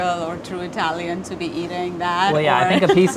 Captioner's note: laughs